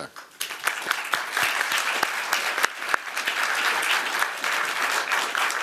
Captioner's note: applause